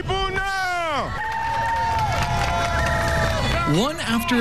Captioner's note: cheering